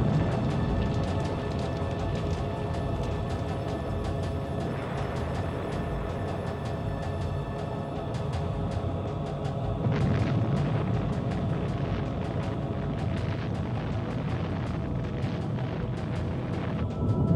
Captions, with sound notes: (thunder rumbles) (gentle music) "I saw Heaven open, "and there before me was a white horse "whose rider is called Faithful and True. "On his robe and on his thigh,